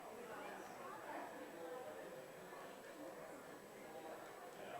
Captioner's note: background chatter